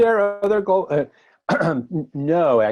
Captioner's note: clears throat